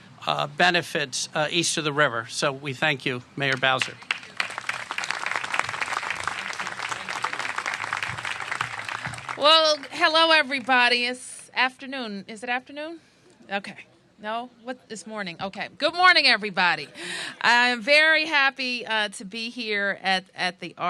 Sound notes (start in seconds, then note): 3.4 applause